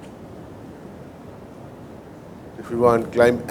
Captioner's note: prop engines